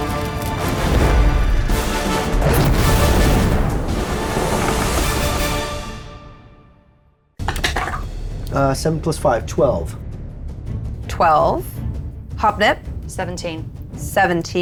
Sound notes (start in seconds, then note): 2.7 fire raging